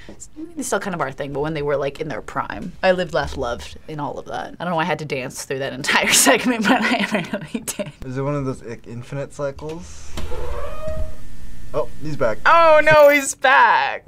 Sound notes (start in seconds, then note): 7.7 laughs; 10.0 door squeaks